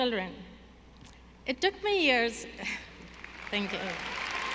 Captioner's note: audience applauding